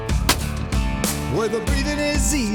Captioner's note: gun shot